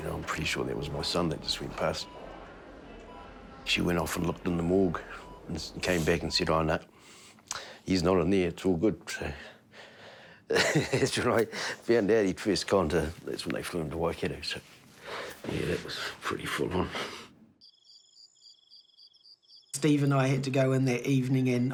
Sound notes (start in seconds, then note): 10.5 chuckles; 17.6 crickets chirp